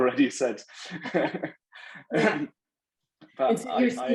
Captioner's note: laughing